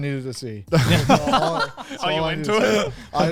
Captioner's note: all laugh